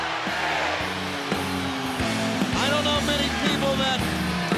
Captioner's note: crowd cheering